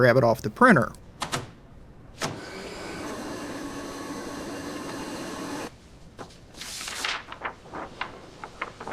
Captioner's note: printer whirring